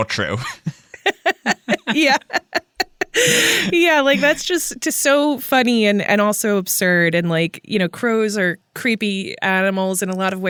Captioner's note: laughs